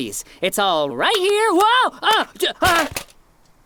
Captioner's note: stammering